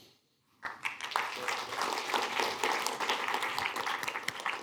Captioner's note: applause